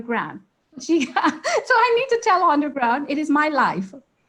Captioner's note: laughs